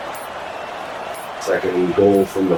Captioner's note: crowd Noises